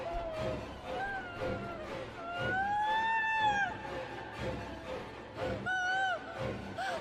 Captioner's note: Julie continues to scream and sob; Julie screams and sobs struggling to get out of the car